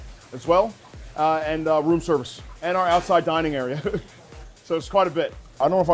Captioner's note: chuckles